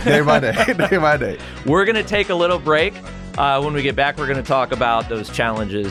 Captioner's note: laugh